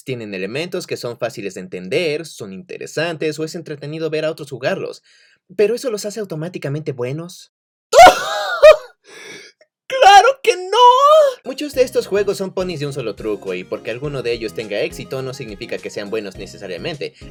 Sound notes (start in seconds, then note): 7.9 laughing hysterically